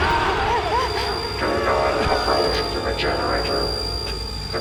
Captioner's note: crying